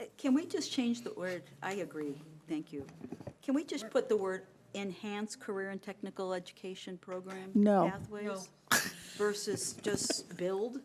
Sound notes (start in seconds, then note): 9.6 laughing